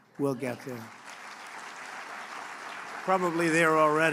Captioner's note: applause